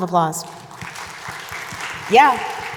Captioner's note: audience applauding